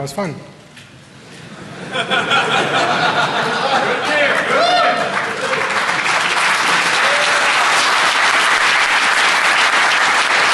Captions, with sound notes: it. ? >> Okay. ? >> [Laughter]. ? >> Okay. Thanks, guys. That was fun! ? >> [Laughter].